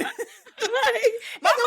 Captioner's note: laughing